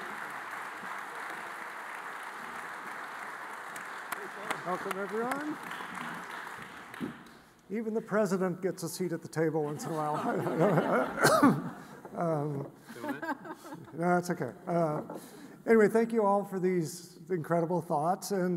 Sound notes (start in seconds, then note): 9.6 all laughing; 11.1 coughs